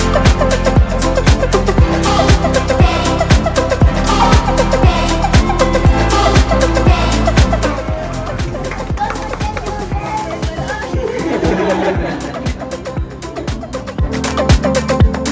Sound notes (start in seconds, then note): 0.1 upbeat music; 10.9 laughter; 14.3 upbeat music